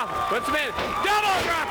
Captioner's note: crowd cheering